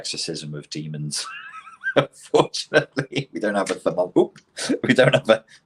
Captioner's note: laughs